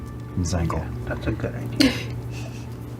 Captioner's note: gasps